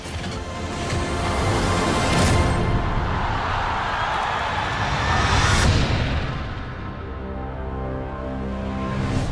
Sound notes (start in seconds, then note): 3.0 crowd cheering